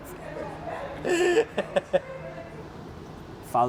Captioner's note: laughing